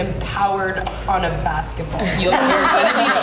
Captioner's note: laughter